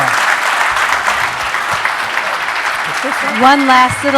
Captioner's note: applause